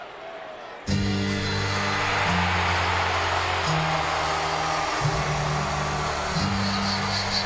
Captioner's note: crowd cheering; hip hop music